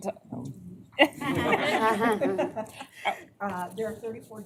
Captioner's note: laughter